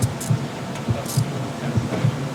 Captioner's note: handcuffs locking